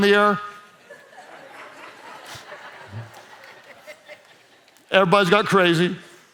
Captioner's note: congregation laughs